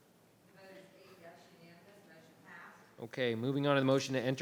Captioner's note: mutters